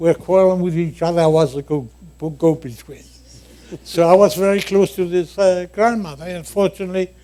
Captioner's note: laughter